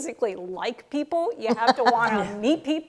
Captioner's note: laughter